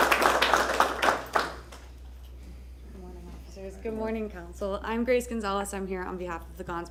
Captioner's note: applause